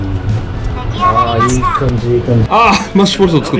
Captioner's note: microwave voice